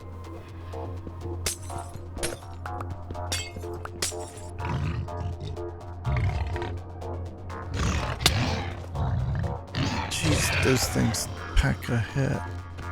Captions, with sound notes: (growling) Geez, those things pack a hit.